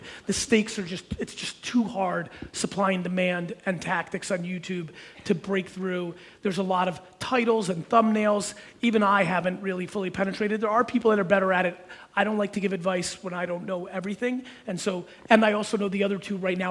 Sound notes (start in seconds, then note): none